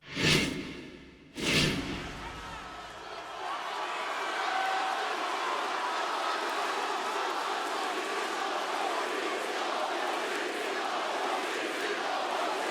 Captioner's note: applause